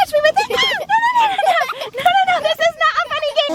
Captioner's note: screams